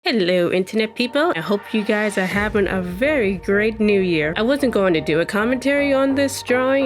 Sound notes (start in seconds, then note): 0.0 upbeat music; 0.2 voice-over